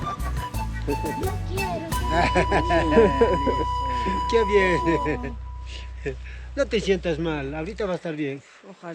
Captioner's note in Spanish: risas